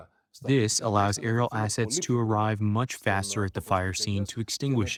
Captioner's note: through translator